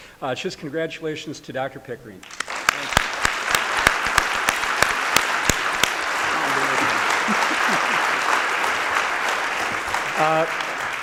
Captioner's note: applause